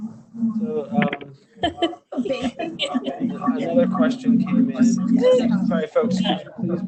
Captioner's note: microphone echoing